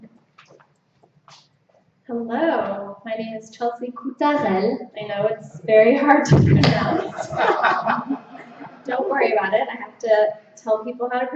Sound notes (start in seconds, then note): 6.5 laughter